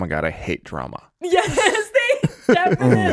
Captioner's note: laughs